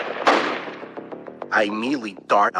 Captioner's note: gunshots banging